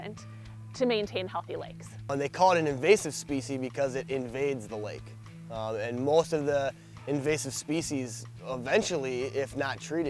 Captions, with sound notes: to maintain healthy lakes. - [Voiceover] They call it an invasive specie because it invades the lake. Most of the invasive species, eventually, if not treated,